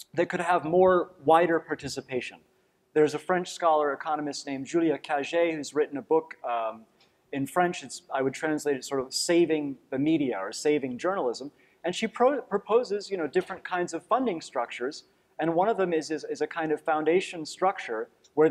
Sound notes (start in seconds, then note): none